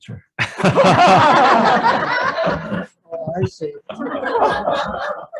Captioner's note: group laughs